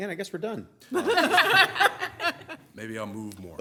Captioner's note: laughing